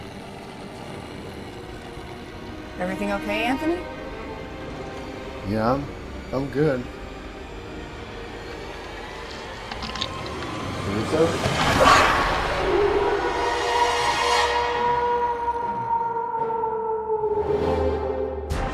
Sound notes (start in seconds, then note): 8.7 tense music; 12.4 wolves howling